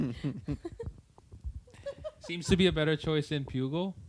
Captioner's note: laughter